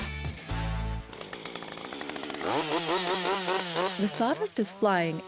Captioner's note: chainsaw whirring